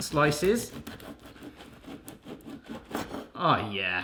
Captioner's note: knife scratching